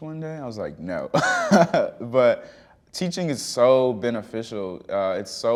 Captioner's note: chuckling